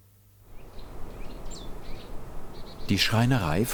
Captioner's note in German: Vogelgezwitscher